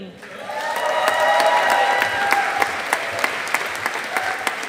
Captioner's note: audience applauding